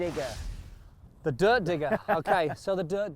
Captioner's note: laughs